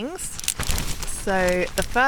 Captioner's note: wind